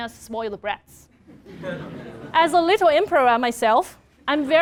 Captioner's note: laugh